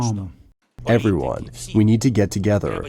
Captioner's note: through translator